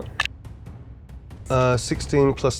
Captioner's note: dice rattling